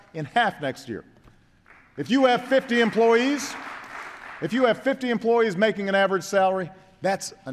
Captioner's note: applause